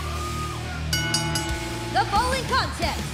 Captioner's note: bell ringing